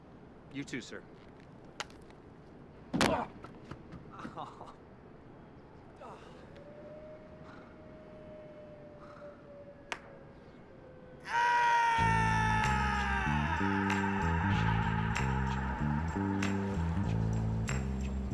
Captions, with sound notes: You too, sir. (thumps into glass) Ow! (screams) (groovy music)